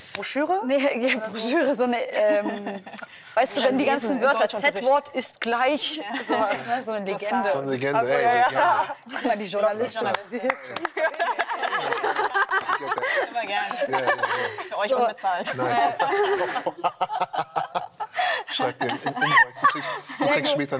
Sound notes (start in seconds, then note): 2.1 laughter; 10.0 applause; 15.5 laughter